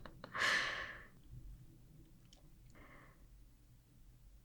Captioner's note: laugh